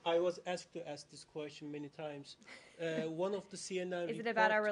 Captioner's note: laughter